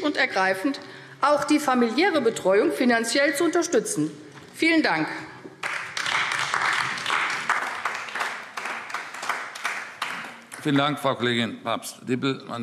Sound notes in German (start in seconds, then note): 5.5 Beifall AfD